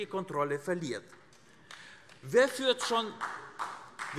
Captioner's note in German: Beifall AfD